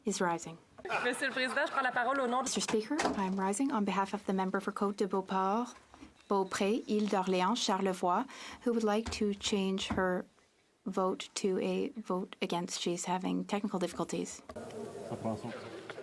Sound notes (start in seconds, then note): 5.0 speaking French